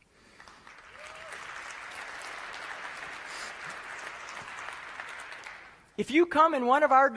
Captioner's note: applause